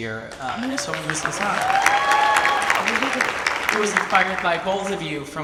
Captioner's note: audience applauds